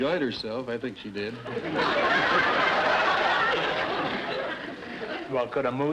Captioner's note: audience laughter